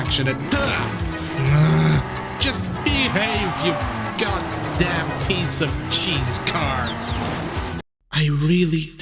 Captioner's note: angry noises